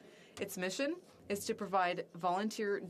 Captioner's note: speaking French